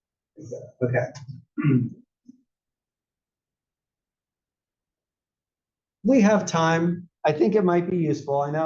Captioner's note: cough